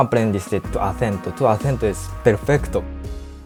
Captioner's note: Spanish